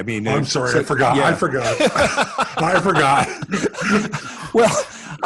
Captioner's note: laughs